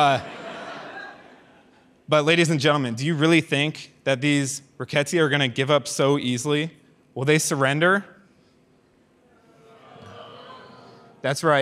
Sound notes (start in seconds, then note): 0.0 audience laughs; 9.5 audience disagrees